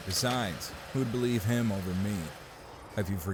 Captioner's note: car parking noises